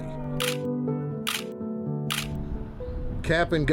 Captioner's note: camera shutter clicks